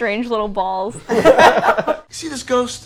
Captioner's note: everyone laughs